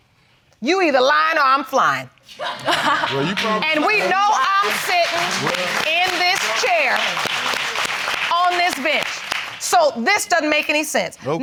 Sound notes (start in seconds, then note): 2.2 laughing; 2.3 audience applauding